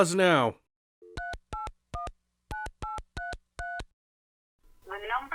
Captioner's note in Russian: звуки набора телефона